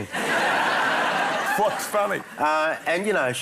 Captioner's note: laughter